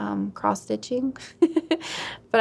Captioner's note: laughs